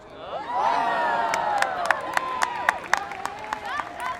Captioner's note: people cheering